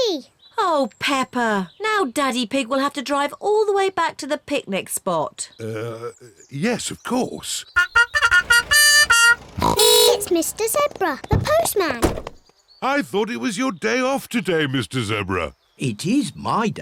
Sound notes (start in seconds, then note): 7.7 trumpet blows; 7.7 horn honks